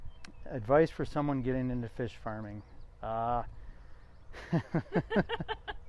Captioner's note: laughs